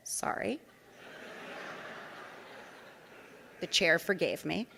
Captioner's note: audience laughing